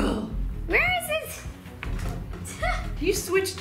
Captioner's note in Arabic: يضحك